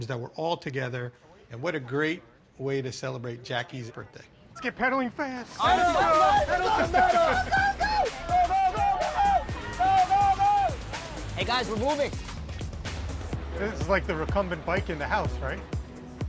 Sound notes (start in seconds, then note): 5.6 yelling